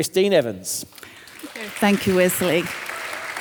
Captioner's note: audience applauding